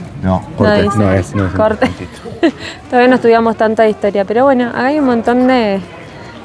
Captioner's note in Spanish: risas